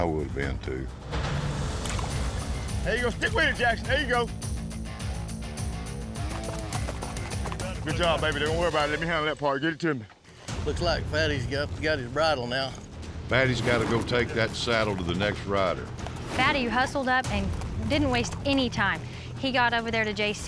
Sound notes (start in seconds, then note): none